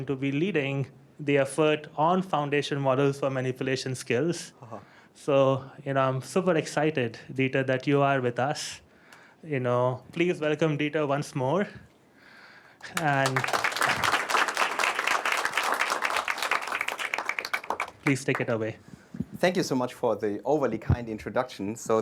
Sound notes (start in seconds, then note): 12.8 applause